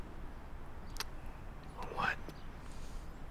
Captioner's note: clicks tongue